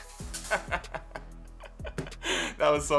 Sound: laughing

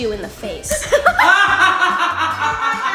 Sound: laughs; dad laughs loudly

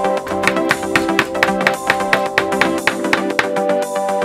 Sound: hammer knocking

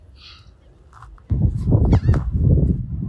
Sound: wind

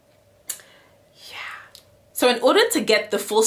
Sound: whispering

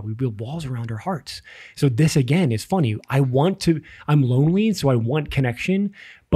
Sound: none

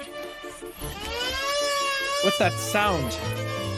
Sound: alarm Sounding

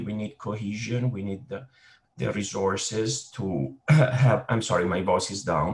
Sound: coughs

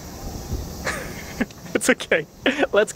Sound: nervous laugh

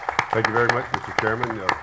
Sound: applause

